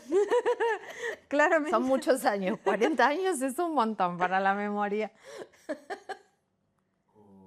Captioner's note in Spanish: risas; risas